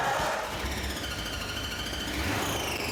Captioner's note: engine starting